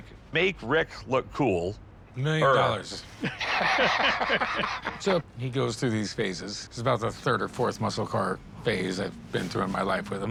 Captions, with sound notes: make Rick look cool. - Million dollars. [laughter] - So he goes through these phases. This is about the third or fourth muscle car phase I've been through in my life with him.